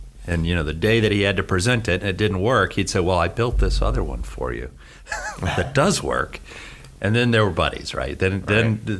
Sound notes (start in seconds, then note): 5.0 he laughs